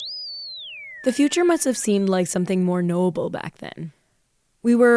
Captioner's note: bleeps and bloops playing